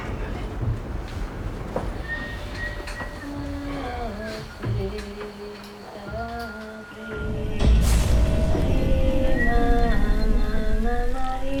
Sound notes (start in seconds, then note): 3.6 chanting in Spanish; 6.2 whistling